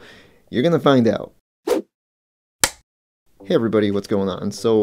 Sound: whoosh, film clapper sound

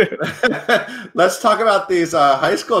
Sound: laughing

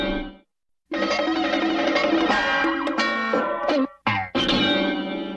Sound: cartoon sounds continuing

